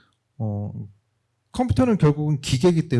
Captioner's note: speaking korean